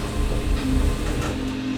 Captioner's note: elevator doors opening